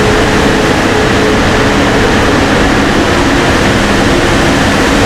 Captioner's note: engine revving